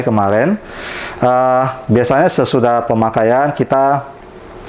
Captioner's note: inhale